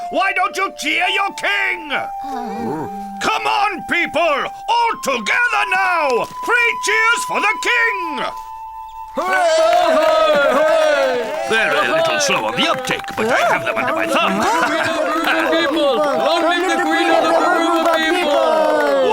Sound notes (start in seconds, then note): 9.2 applauding; 15.0 cheering